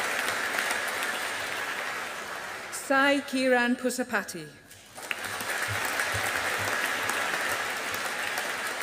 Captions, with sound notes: Sai Kiran Pusapati. (AUDIENCE APPLAUDING)